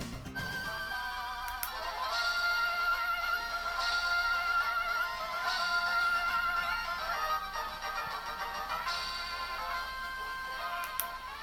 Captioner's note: game sounds and music